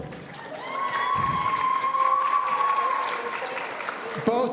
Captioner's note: audience cheering